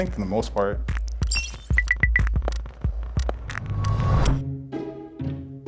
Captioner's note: scale beeping; anticipatory music